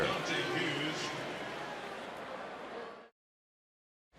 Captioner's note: pa announcement